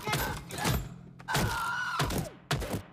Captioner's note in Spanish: grito agudo